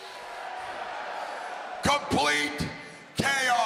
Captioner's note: crowd cheering